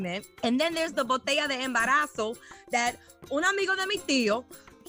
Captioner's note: Spanish